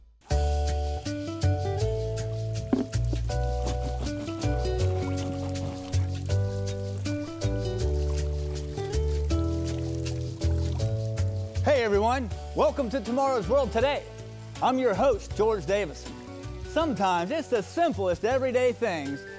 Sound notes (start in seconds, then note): 0.3 upbeat music; 3.0 water splashing